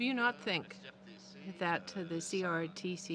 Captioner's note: speaking French